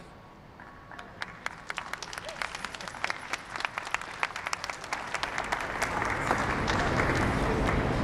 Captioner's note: applause